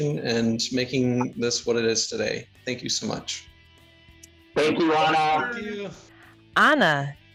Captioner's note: group speaking together